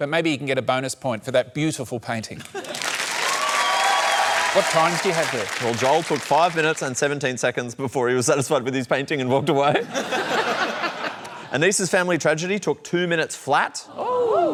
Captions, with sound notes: But maybe he can get a bonus point for that beautiful painting. (CHEERING, APPLAUSE) What times do you have there? Well, Joel took five minutes and 17 seconds before he was satisfied with his painting and walked away. (LAUGHTER) Anisa's family tragedy took two minutes flat.